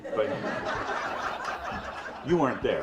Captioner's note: audience laughs